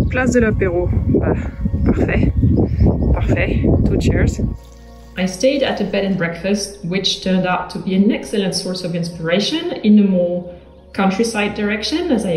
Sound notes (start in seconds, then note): 1.3 speaks French